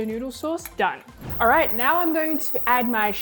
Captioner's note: whooshing